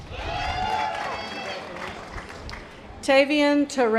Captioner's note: audience applause